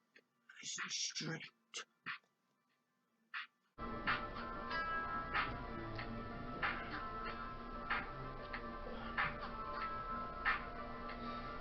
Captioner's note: whisper counting